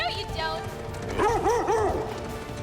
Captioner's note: barks